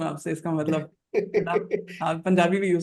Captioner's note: laughs